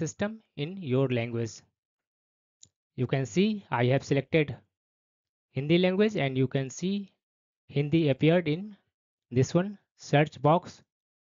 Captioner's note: Hindi